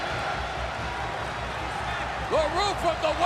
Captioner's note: crowd cheering